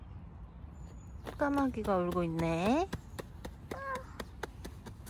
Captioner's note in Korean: 토닥토닥